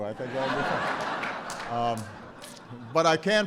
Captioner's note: laughter